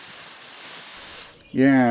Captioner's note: hissing sound